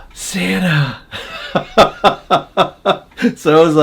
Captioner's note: laughing